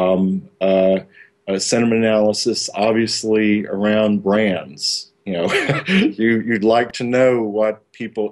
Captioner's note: laughter